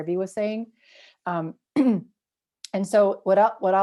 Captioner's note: clears throat